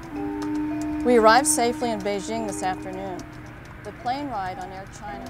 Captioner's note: voice fades